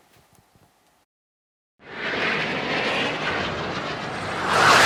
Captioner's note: whooshing sound